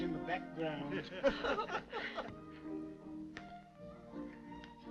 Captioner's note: laughing